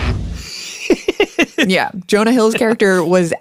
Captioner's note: laughs